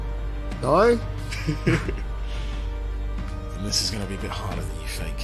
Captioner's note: laughs